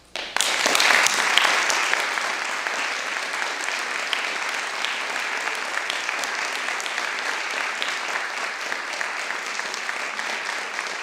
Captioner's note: applause